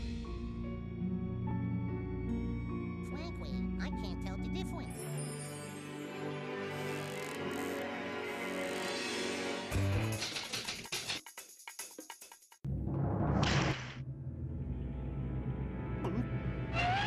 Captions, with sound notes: FRANKLY, I CAN'T TELL THE DIFFERENCE. [typewriter clacking]